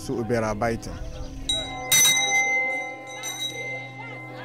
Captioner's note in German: Glockenläuten